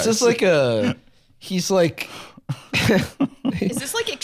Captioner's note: laughs